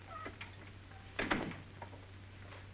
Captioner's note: door closes